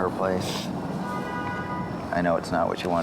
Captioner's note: car honks